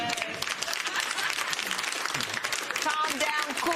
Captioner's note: applause; chuckles